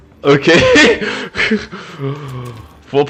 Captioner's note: laugh